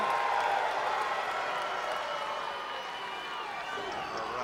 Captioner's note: crowd jeering